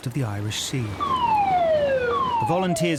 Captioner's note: siren whoops